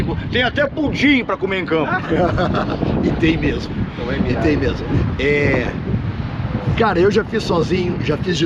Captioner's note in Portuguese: risadas